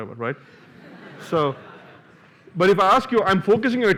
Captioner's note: laughter